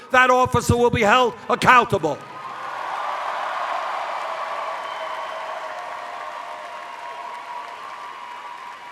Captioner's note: cheers